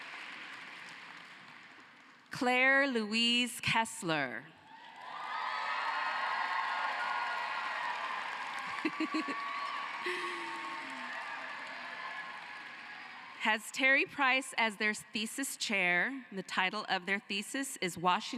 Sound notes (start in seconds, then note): 1.5 cheering and applause